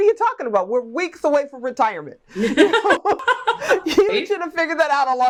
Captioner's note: laughs